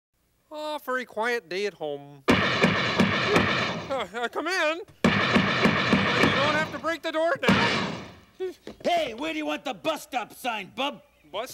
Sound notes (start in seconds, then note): 2.3 loud banging on door; 5.0 loud banging on door